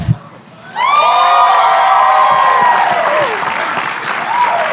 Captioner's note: cheering, applause